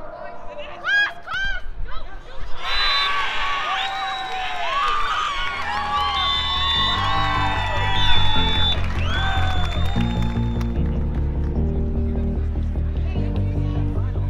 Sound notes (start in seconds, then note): 3.1 cheering; 10.9 emotional music